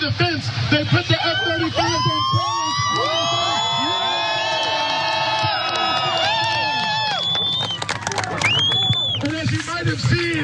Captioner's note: applause